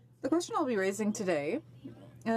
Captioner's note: speaking French